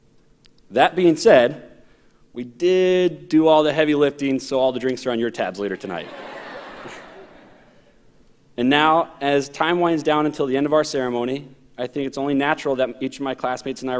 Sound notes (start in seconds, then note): 5.7 audience laughs